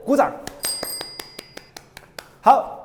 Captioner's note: applause